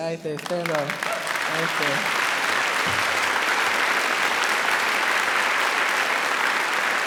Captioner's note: crowd applauds